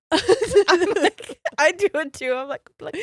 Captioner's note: both giggles